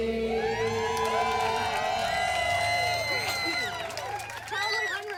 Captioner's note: cheers and applause